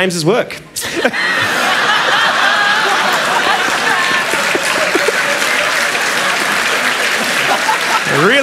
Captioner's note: laughter